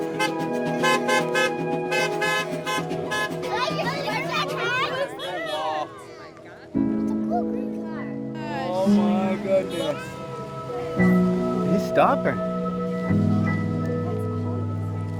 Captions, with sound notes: (cars horns blasting) (children cheering) - Wow. Oh, my goodness. He's stopping.